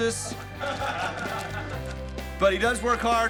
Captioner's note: men laughing